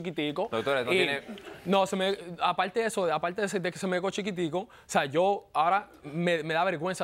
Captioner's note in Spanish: Risas